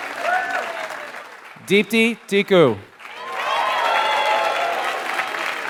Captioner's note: applause